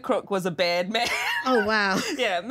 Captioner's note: laughs